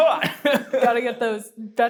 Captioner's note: laughs